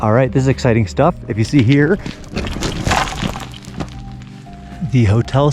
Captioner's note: rocks crashing